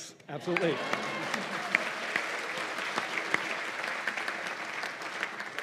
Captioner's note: cheers and applause